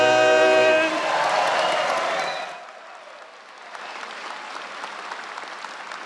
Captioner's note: crowd cheering and applauding